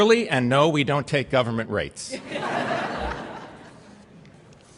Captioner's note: laughter